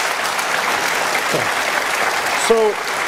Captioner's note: applause